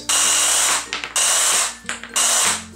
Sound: saw noises

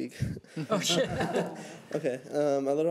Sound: laughing

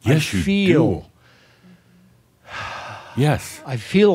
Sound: sighs

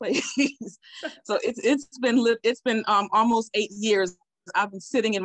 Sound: laughs

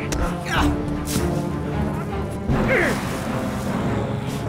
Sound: fleshy thunk; grunting; suspenseful instrumental music

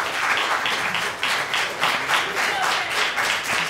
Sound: applause and cheering

